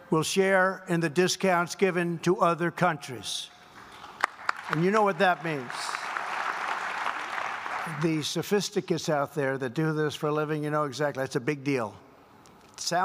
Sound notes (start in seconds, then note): 4.0 applause